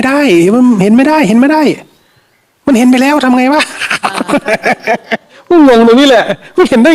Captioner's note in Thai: เสียงหัวเราะ